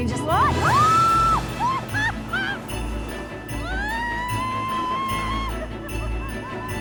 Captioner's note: shouting, laughing